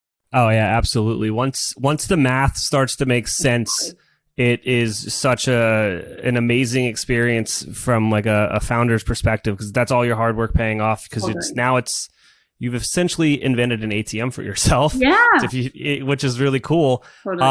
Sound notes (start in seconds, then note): 15.0 laughs